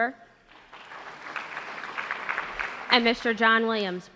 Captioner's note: applause